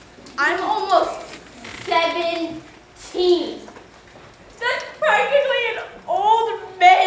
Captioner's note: none